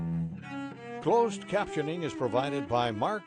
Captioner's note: voiceover